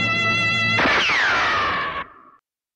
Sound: gun Shot

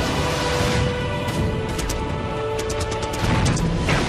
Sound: water splash; guns firing

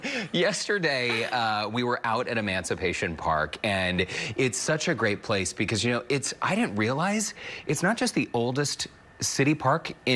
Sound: laughter

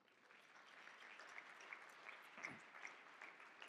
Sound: audience clapping

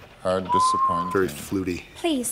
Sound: whistles

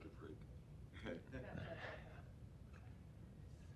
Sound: laughter

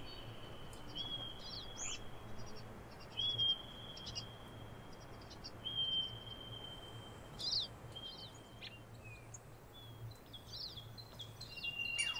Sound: Pika squeaking. Marmots whistling. Birds chirping

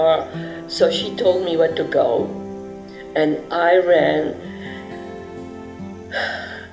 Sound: sighing

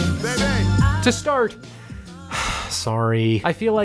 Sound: sighs

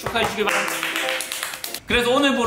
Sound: applause

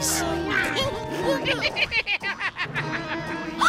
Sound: giggling

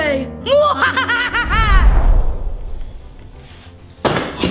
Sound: laughing

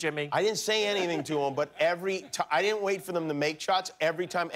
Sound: laughter

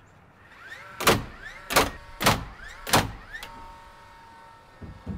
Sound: nail banging loudly

